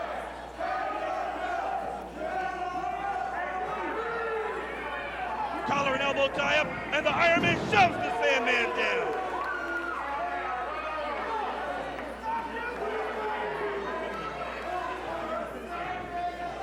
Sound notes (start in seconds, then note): 3.7 crowd chatter